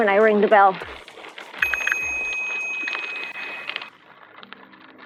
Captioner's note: bell ringing